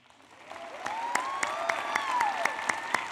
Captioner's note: applause